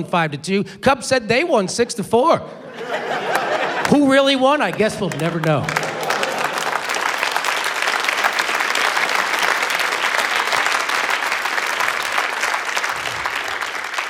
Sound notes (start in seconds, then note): 4.6 applause